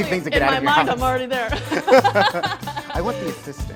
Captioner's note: laughing